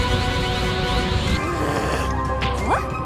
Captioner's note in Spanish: Gruñidos